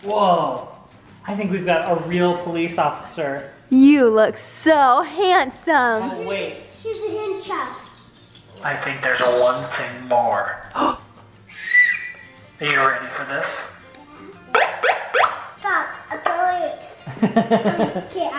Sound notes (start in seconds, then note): 11.4 whistles; 14.5 sirens beeps; 17.0 laughs